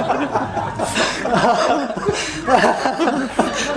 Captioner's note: laughter